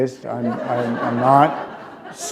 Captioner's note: laughter